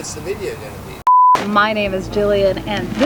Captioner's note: beep